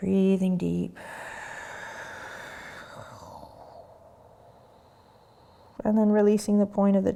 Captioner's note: breathing